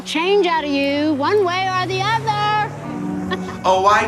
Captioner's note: chuckles